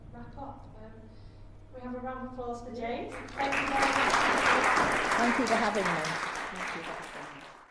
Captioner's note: applause